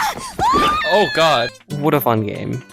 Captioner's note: screams as they fall to their death